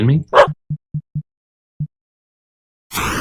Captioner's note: woof